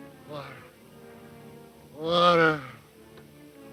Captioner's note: moaning